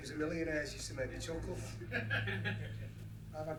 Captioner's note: laughter